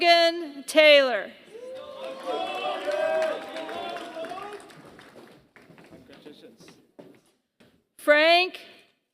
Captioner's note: applause